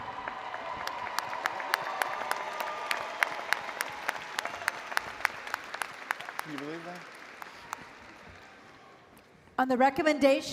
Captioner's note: applause & Cheering